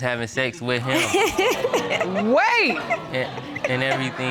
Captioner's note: laughs